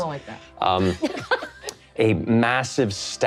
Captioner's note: laughing